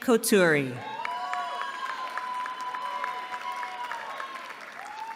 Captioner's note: cheering